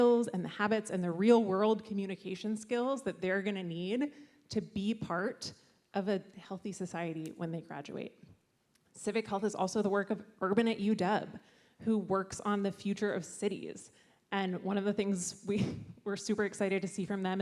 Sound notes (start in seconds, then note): none